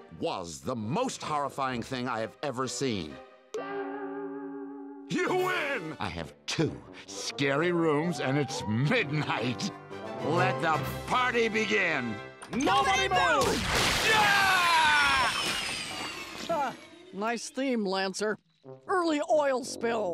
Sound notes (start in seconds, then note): 13.9 screaming